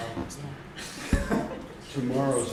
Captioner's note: laughter